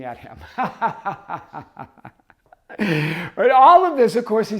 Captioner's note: laughing